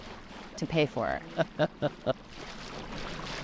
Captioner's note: chuckling